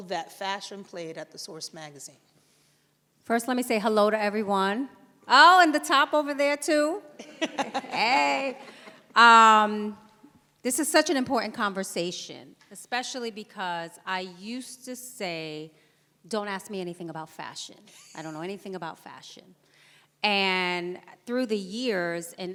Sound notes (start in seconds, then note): 7.1 laughs